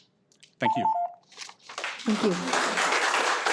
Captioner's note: beeping; audience applauding